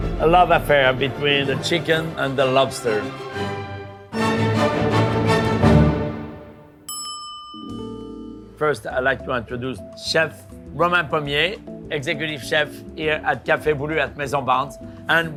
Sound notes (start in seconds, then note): 3.0 dramatic orchestral music; 6.8 bell dinging